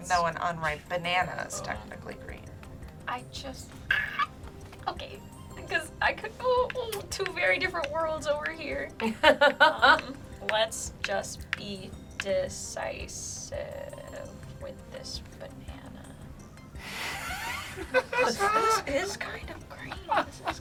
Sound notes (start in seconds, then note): 3.9 screeches; 9.0 laughs; 17.0 laugh